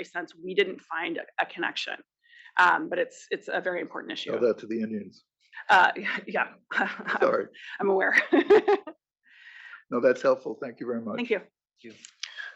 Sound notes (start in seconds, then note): 7.1 laugh